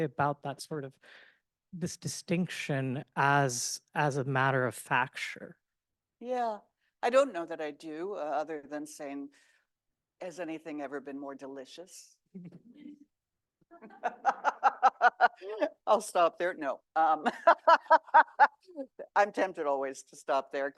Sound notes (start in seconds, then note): 13.8 laughs; 17.3 laughs